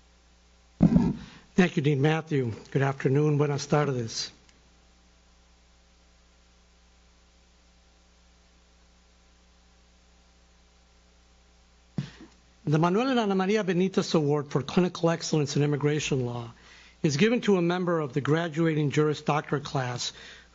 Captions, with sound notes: - Thank you Dean Matthew, good afternoon. (speaking foreign language) The Manuel and Ana Maria Benitez Award for Clinical Excellence in Immigration Law is given to a member of the graduating Juris Doctorate class